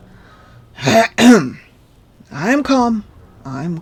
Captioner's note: cough